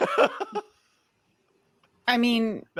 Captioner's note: laughs